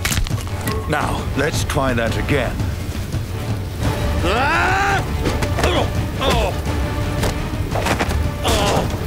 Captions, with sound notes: Now, let's try that again. [GRUNTING]